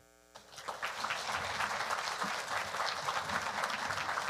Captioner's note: audience applauding